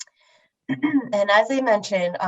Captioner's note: clears throat